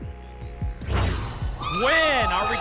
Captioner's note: whoosh